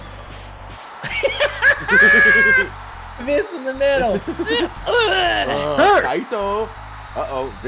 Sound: laugh

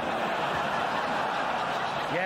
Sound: audience & James laughing

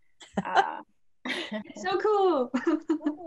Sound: laugh; laugh

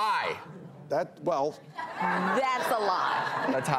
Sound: audience laughs

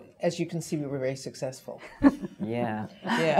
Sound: laugh; laughs

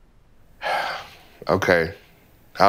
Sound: sighing

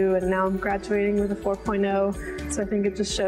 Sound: none

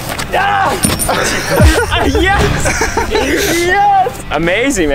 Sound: laughing

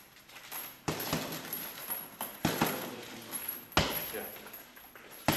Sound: fists thudding

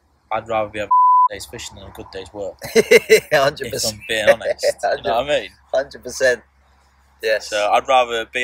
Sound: laughing

